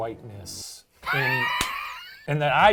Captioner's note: laughing